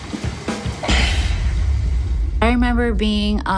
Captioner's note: exploding